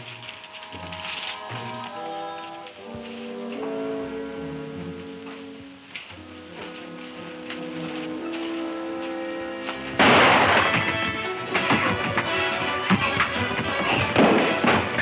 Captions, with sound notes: - That suits me. (gun roars) (dramatic music)